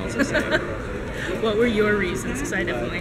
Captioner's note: laughs